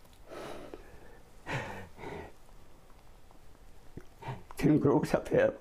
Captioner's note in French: sanglots